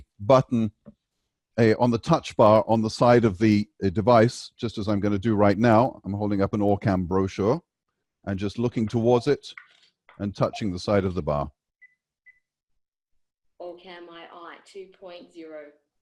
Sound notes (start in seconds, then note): 10.4 OrCam heard beeping